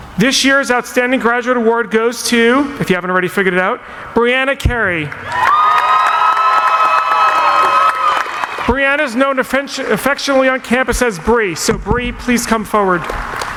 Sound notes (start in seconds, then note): 5.1 audience applauding; 5.2 cheering; 13.0 applauding; 13.0 cheering